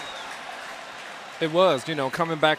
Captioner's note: applause